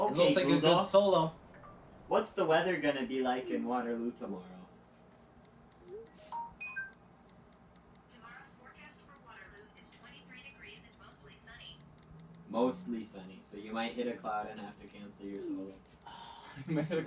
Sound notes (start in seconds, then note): 1.5 phone beeps; 8.5 voice on phone